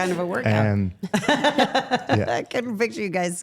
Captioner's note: people laughing